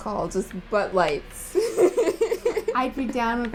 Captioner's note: laughter